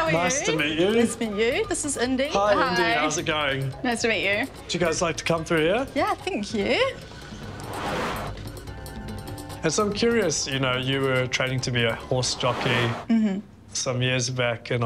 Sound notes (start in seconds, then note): 7.1 logo swooshes